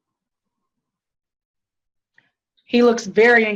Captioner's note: audio muted